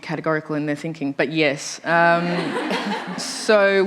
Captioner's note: laughter